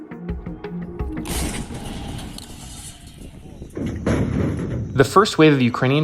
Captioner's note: dramatic music; canon blasting